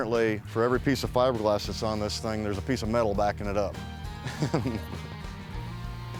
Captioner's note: laughs